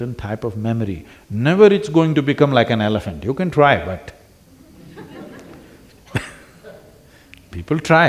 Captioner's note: few laugh